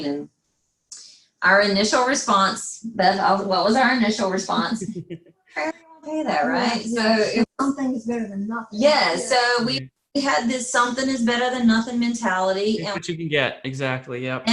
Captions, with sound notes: And our initial response, Beth, well, what was our initial response? (laughs) (faintly speaking) Right? So - Something is better than nothing. - Yes, so we've had this something-is-better than nothing mentality. - You get what you could get exactly, yep.